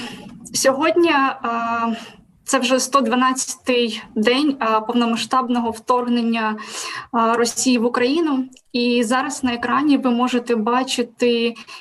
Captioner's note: foreign Language